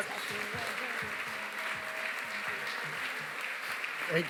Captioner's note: applause